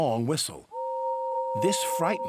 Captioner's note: toot